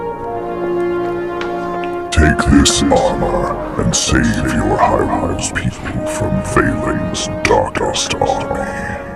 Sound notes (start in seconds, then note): 3.0 voice echoed